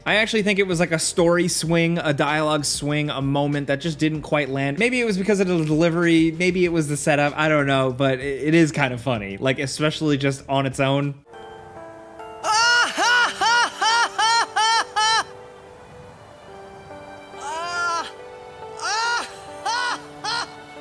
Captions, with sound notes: I actually think it was like a story swing, a dialogue swing, a moment that just didn't quite land. Maybe it was because of the delivery, maybe it was the setup, I don't know, but it is kind of funny, like especially just on its own. (awkward laughter)